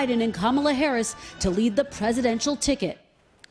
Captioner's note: none